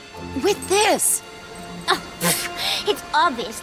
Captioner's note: scoffs